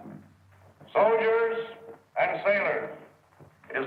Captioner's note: Patton on speaker